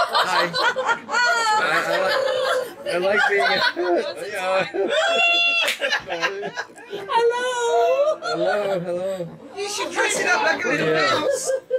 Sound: laughing

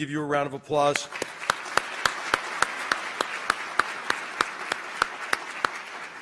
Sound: applause

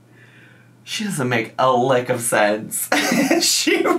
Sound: laughs

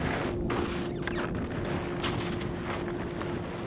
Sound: snow squelching

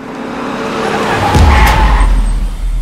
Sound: brakes squeal

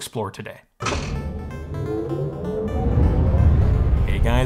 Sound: machine whirring; upbeat electronic music

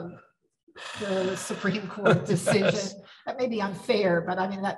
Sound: laughs

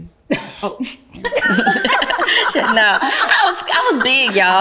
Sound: ladies laugh

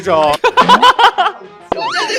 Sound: is laughing so hard

